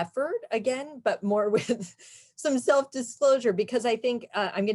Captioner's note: chuckles